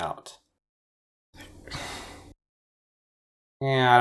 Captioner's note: sigh in confusion